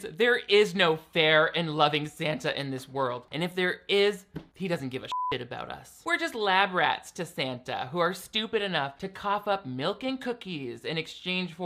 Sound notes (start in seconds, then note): 5.1 beep